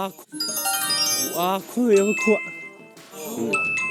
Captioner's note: at that moment, the alarm rings